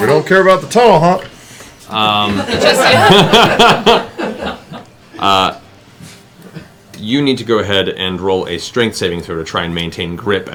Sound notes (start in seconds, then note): 2.2 laughter